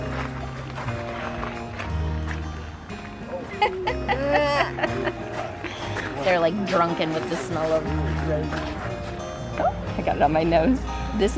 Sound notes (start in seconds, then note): 0.1 quiet music continues; 3.5 laughing